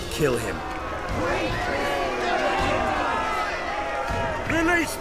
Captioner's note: boos